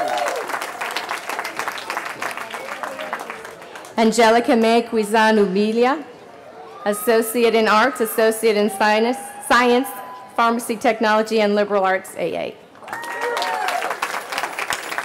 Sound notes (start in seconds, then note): 0.0 cheering; 14.8 cheering